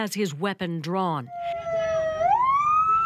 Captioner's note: sirens